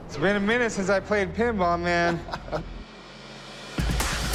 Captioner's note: laughs